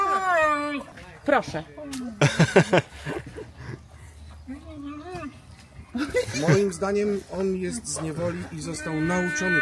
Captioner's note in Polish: śmiech